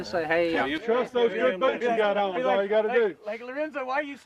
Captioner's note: group chatter